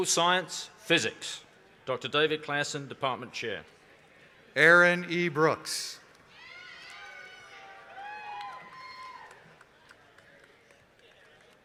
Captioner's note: applause